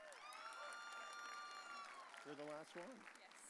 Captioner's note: audience cheering